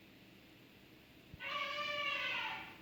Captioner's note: sound of elephant